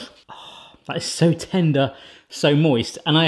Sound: happy sigh

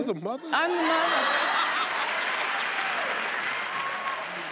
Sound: crowd laughs

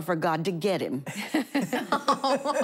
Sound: laughing

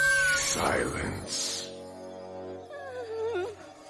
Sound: screaming

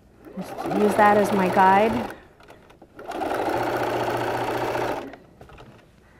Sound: machine sewing

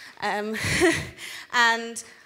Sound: laughs

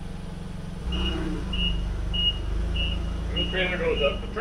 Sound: forklift beeping

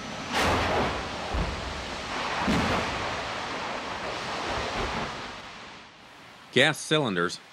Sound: sound of explosion

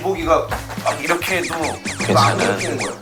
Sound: scratches

